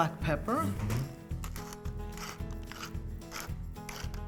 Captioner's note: peppercorns cracking